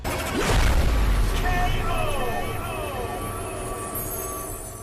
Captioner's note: man's voice echoing